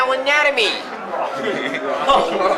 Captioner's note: laughs